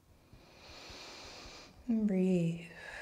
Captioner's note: breathing